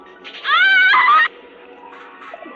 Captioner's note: screaming